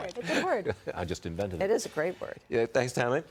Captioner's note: laughter